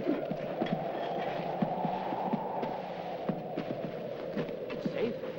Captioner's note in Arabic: تهب الرياح